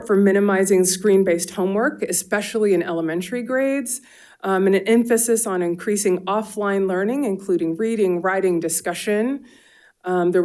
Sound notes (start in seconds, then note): none